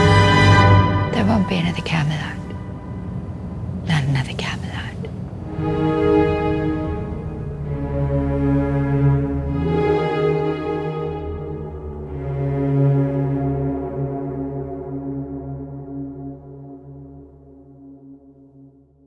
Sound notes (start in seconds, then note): 0.0 music swells; 1.2 voice-over